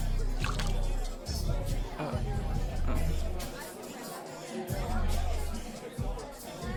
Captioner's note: upbeat music; wine splashing